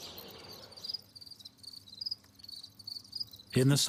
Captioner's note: crickets chirping